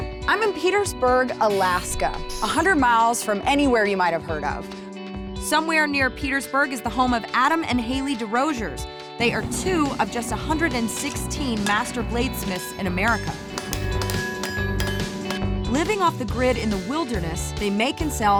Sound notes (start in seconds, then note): 13.1 clanking